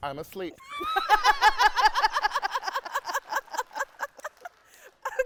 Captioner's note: host laughing; audience clapping